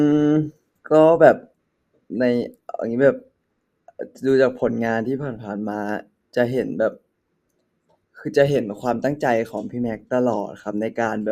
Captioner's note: continuing his answer in Thai